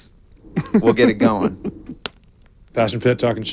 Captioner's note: laughing